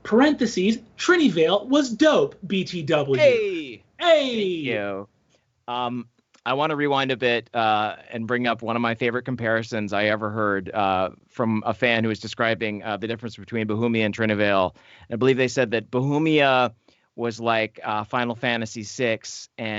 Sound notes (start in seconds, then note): 3.1 cheering